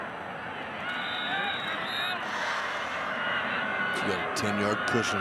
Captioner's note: referee blows whistle